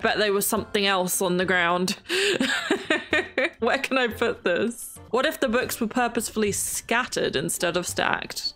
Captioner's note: laughs